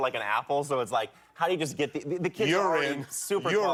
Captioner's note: laughter